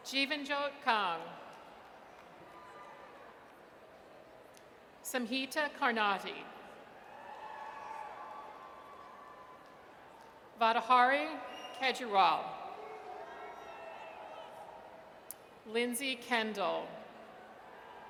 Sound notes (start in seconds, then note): 7.0 audience cheers